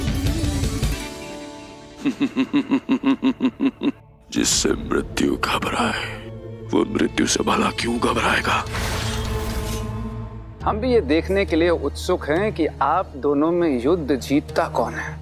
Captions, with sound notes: [chuckling] One whom death fears, why would he fear death? I am eager to see who wins the battle.